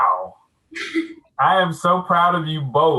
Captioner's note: laughing